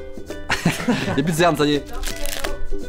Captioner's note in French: rire